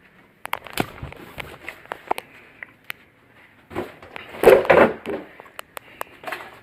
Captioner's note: thudding; objects thudding; smacking